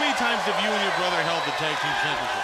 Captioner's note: crowd cheering